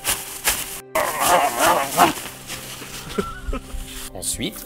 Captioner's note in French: grognements et rires